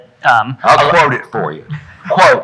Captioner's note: audience laughing